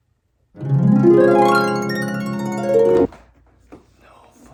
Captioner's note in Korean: 이상한 효과음